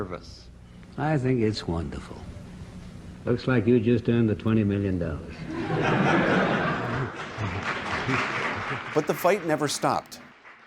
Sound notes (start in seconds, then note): 5.4 laughter; 6.9 applause